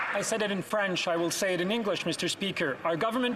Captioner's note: some Applause